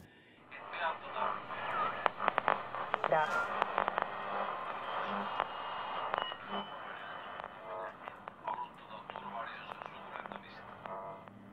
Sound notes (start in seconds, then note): 0.4 radio interferences